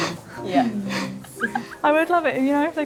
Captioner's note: all laughing